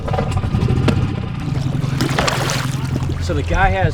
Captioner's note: water splashes